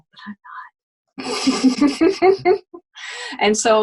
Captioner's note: laughing